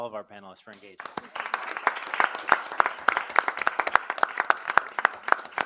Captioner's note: audience applaud